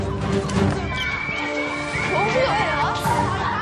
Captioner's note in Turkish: kızlar çığlık atıyorlar